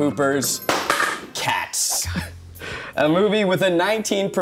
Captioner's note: board clatters